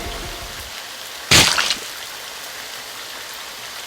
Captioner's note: slash!!